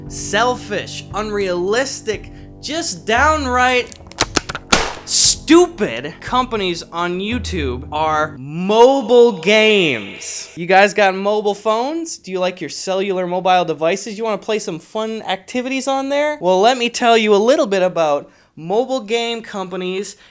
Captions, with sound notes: selfish, unrealistic, just downright [Cocks and shoots gun] STUPID companies on YouTube are [Echoes] Mobile Games... You guys got mobile phones? Do you like your cellular mobile devices? You want to play some fun activities on there? Well, let me tell you a little bit about mobile game companies